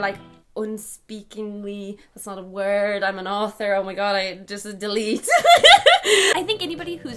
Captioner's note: laughing